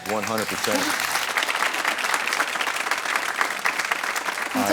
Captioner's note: audience clapping